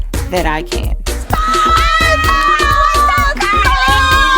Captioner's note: screams